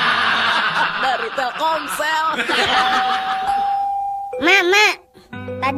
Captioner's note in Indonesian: tertawa